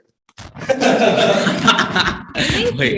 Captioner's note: teens laugh